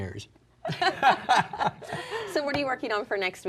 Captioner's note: laughing